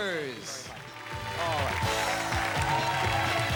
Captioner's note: cheers and applause